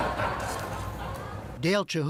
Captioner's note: laughter